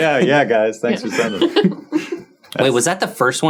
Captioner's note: laughing; group chuckling